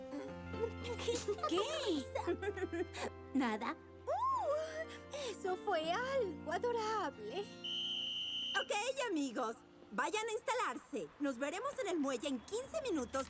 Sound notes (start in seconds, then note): 0.1 tittering; 7.6 whistle tweet